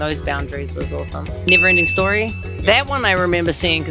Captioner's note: bell dings